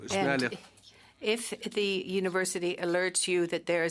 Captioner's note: speaking French